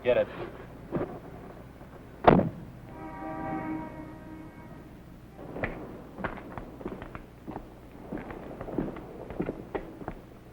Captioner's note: car doors slam